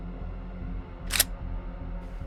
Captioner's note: gun cocking